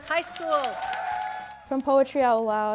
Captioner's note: crowd cheering; crowd clapping